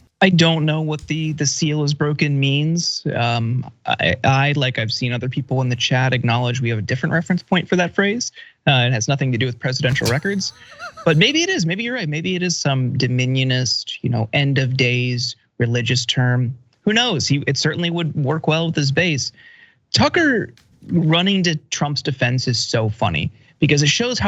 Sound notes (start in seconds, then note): 9.8 laugh